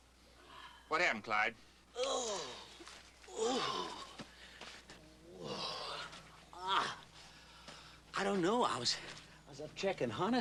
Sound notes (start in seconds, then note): 1.9 grunting and groaning; 5.2 groans and grunts